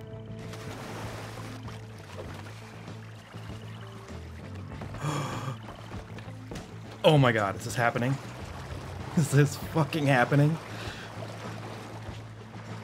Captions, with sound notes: *gasps* Oh my god! Is this happening? Is this fucking happening?